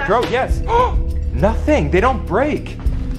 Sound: gasps

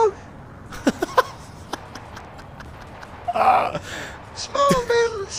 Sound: quiet Laughter

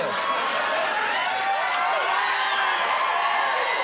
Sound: audience cheers

